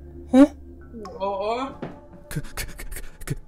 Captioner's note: none